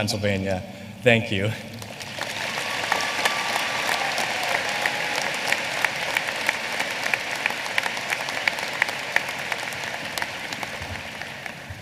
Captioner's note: applause